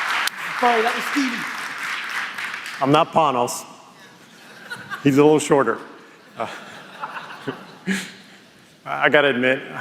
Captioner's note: applause